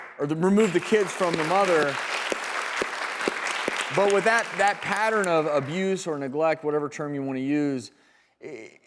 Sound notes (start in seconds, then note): 2.6 audience applauding